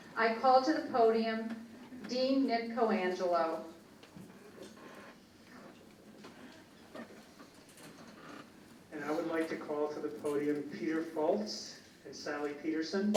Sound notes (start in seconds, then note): none